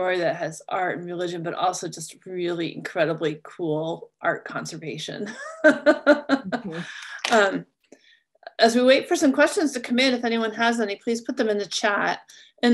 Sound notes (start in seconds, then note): 5.5 laughs